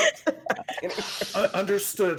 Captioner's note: everyone laughs